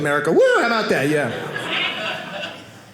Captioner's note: audience laughing